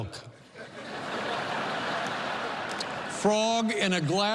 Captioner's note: laughter